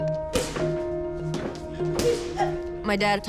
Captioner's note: grunting